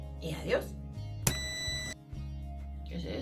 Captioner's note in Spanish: pitido fuerte